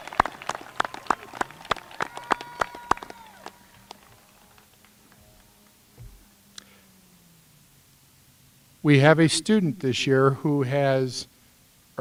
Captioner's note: applause